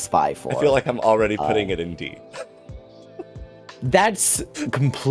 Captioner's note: chuckles